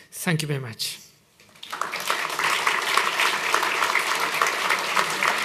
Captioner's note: applause